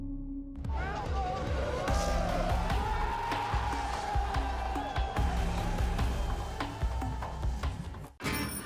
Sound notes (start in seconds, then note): 4.5 cheering